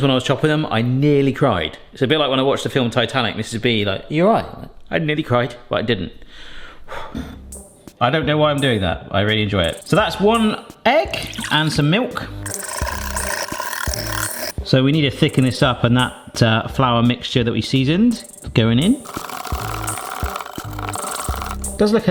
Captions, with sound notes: when I was chopping them, I nearly cried. It's a bit like when I watched the film "Titanic." Mrs. B, like "You all right like?" I nearly cried but I didn't (exhaling). I don't know why I'm doing that. I really enjoy it. So that's one egg and some milk. (whisk whirring) So we need to thicken this up, and that flour mixture that we seasoned, going in. (whisk whirring)